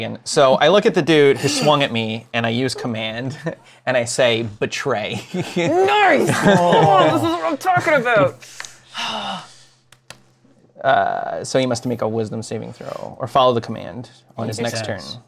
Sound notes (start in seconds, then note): 8.4 exhales